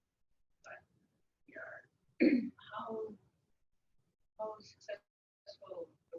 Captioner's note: speaking away from mike